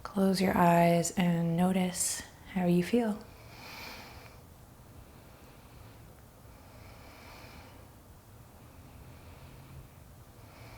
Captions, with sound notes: Close your eyes and notice how you feel. (deep breaths)